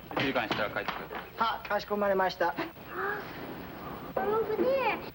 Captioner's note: speaking foreign language